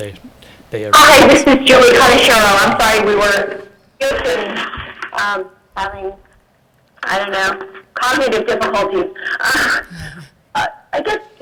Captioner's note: laughter